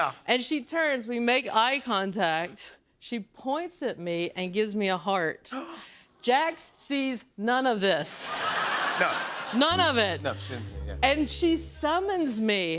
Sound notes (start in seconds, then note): 8.1 laughter